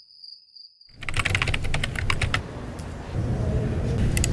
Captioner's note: keyboard typing; mouse clicking